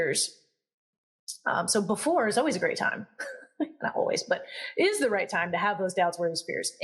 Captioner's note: laugh